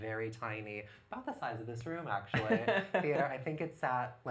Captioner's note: laughs